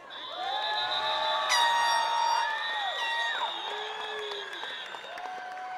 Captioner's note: attendees cheering and clapping